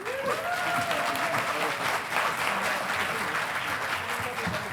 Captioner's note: audience applauding